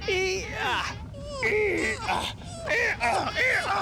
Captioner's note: grunting; <i> GROANING</i>